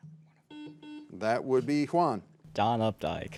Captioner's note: signal beeps